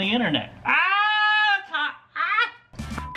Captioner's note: screams